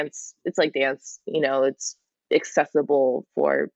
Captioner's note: none